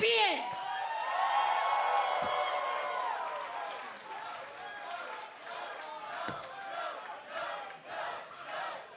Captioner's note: cheers and applause; fans chanting